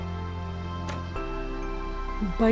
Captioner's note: unlocks door